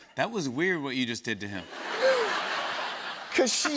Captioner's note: laughter